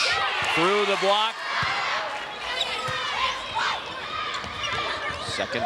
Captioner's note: audience cheering and shouting